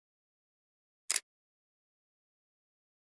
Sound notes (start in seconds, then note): 1.1 sound of camera click